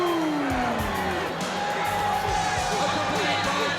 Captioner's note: crowd cheering